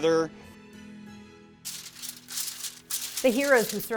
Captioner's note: paper crumpling